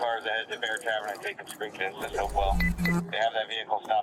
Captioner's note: radio chatter